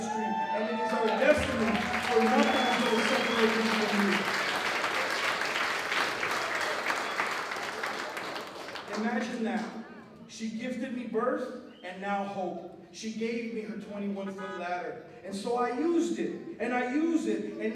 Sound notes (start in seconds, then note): 0.6 applause